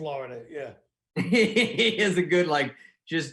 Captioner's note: laughing